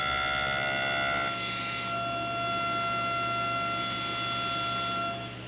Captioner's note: table-saw continues whining